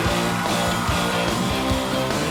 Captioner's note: cheers and applause